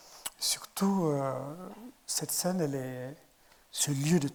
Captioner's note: speaking in French